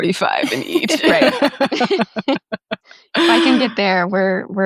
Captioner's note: group laughing